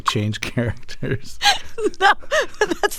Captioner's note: laughter